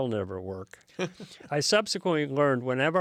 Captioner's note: laughs